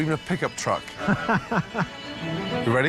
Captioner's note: laughing